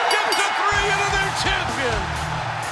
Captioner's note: bell ringing